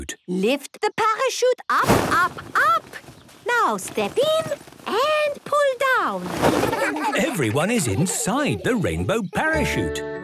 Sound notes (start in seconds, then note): 6.6 laughter